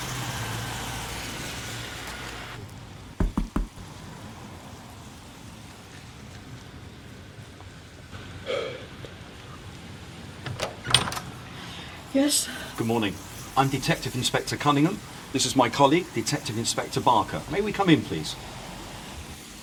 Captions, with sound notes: (knocking) (Barker exhaling) - Yes? - Good morning, I'm Detective Inspector Cunningham. This is my colleague, Detective Inspector Barker. May we come in please?